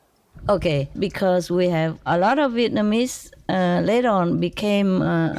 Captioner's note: Vietnamese